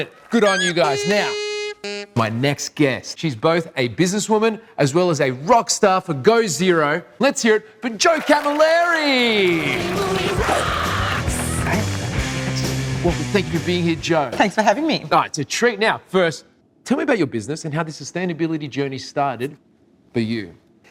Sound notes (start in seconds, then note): 9.1 audience applauding